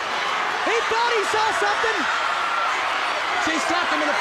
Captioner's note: crowd clamoring